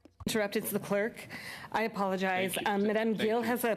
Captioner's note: speaking French